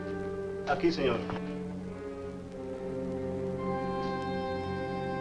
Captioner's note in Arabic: ماريو يتحدث الاسبانية